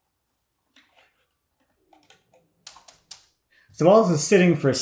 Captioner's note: tool clicking